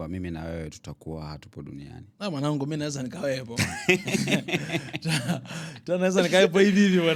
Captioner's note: laughter